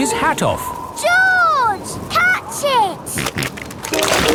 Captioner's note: snorting